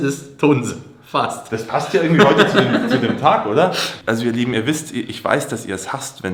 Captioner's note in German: gelächter